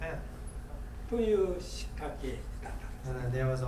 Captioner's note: speaking in foreign language